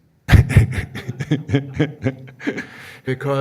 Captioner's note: man laughing